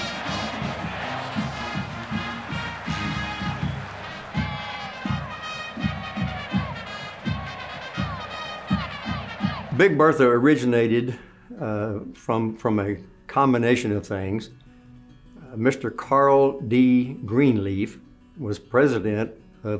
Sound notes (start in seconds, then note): 0.3 marching band music; 3.7 crowd cheers; 4.9 marching band music; 8.2 cheerleading squad cheering